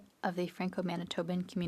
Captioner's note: speaking French